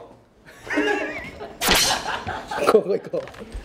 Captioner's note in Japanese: 笑い声